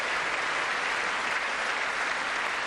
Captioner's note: applause